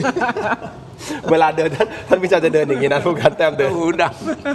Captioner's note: laughter